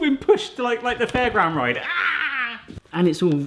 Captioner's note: yells